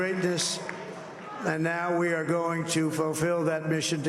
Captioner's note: applause